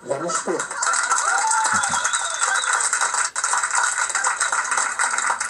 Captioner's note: clapping